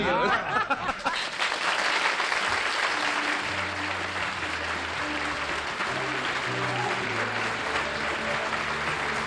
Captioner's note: applause